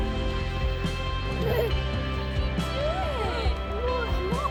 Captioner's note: laughing